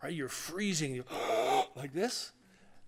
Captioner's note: gasp